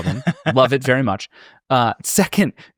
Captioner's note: laughing